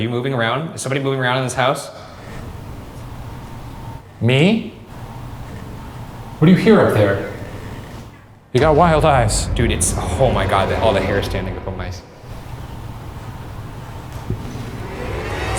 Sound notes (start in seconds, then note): 2.7 light creaking; 13.9 light creaking